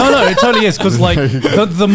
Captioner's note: laughing